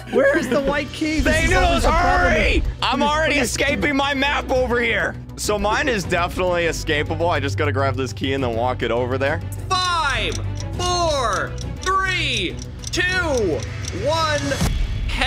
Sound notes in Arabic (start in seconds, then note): 9.5 دقات الساعة